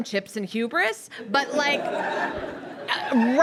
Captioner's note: audience laughs